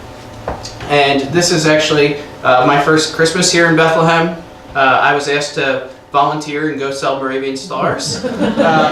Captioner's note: laughing